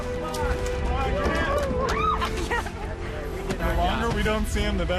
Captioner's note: excited talking